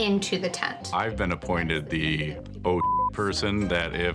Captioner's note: beep